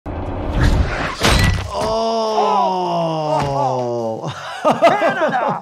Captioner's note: clanking; laughs